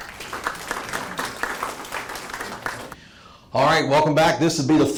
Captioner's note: attendees clapping